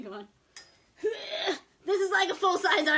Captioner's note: groans